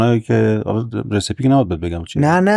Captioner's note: laughs